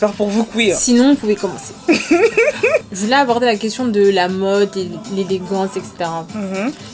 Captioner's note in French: rires